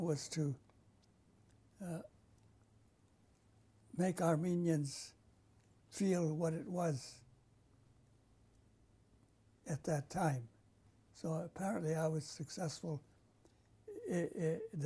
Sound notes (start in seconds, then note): 1.8 pauses for 3 seconds; 7.5 pauses for 3 seconds